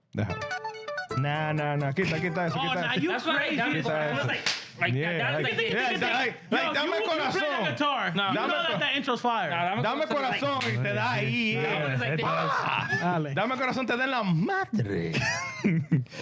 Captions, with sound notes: Nah, nah, nah. (Speaking In Foreign Language) That's crazy. (Speaking In Foreign Language) You play the guitar. You don't let that intro fire. (Speaking In Foreign Language) (Laughing)